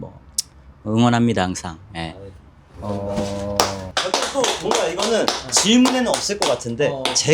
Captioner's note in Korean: 박수